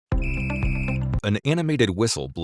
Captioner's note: upbeat music; whistle blows